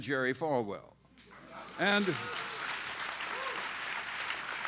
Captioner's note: applause